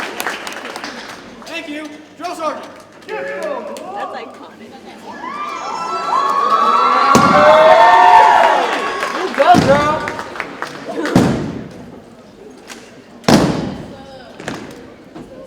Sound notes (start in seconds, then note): 9.2 audience cheers and applauds; 11.4 boots thump